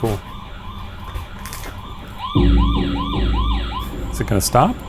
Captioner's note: motion alarm blaring